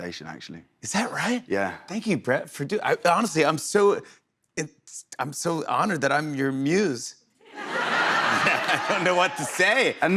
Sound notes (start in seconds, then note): 7.5 laughter